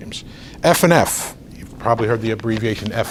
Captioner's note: rustles papers